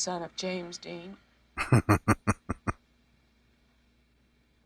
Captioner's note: chuckling